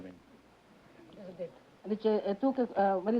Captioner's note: speaking italian